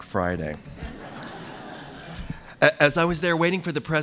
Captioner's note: laughter